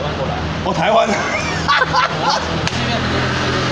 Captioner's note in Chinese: 大笑